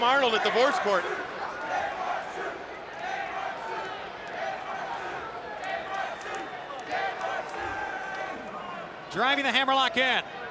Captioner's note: applause